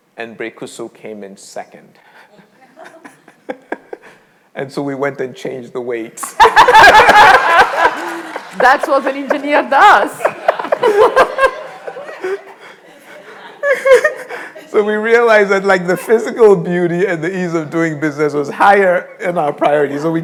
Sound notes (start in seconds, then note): 2.4 all laughing; 7.3 all laughing; 12.7 all laughing